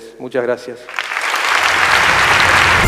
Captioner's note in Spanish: Aplausos